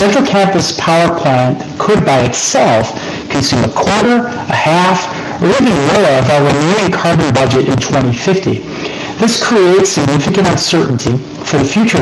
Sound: distorted audio

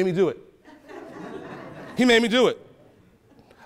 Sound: attendees laugh

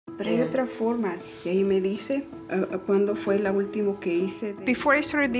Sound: speaking spanish

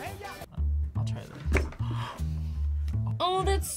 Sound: gasps

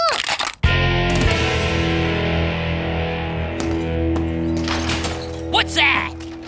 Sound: crushing

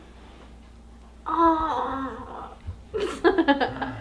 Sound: yawning; groaning; laughing

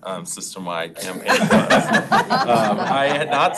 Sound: board members laughing

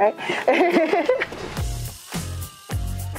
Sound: laughs; upbeat music

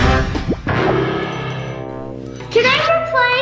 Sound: bouncy, playful music; splooshing; bell ringing

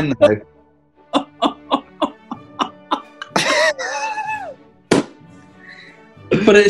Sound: laughing

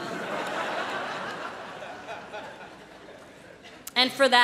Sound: laughter

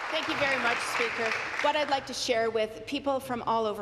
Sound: applause

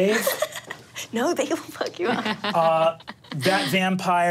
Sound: laughs

